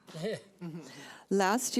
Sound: people chuckling

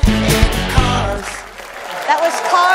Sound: scattered applause

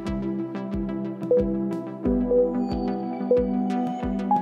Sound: timer beeping

